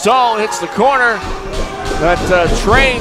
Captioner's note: heavy footsteps